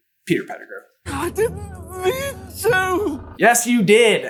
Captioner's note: whiny